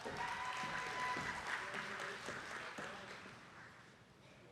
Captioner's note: attendees clapping